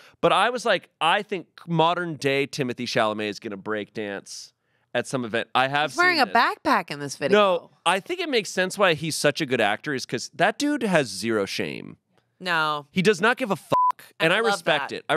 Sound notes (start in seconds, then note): 13.7 beep